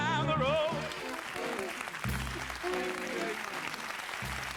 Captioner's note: crowd clapping